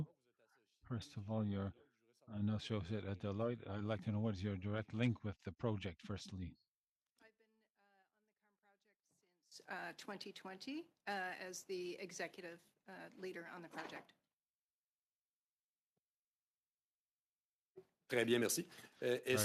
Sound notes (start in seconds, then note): 2.8 speaking French